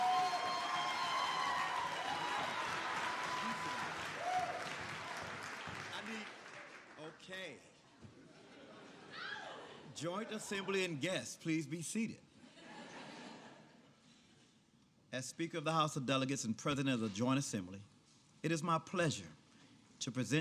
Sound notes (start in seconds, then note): 7.0 applause